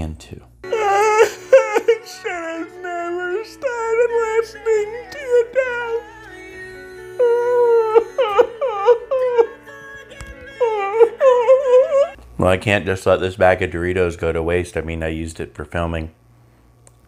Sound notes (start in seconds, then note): 0.0 sobbing with playing; 5.3 sobbing; 7.2 more sobbing and chewing